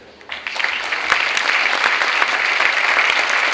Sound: clapping

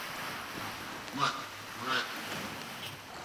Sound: squawks

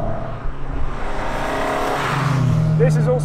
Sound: engine revving

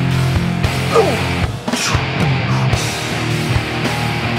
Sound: grunting

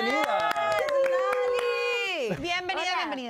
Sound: Aplausos

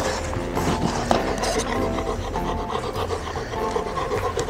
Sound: laughs

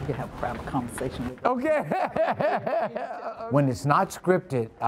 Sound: laughs

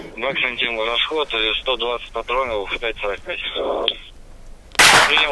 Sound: radio exchange

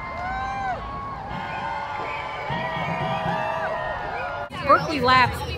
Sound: cheering; marching band music

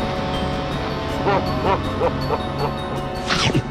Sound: evil laughter

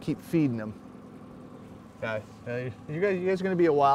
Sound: boat engine idling

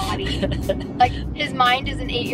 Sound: laughs

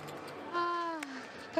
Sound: sigh

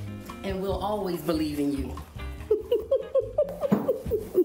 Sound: laughing

